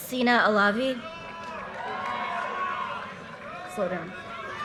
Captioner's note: audience cheers and applause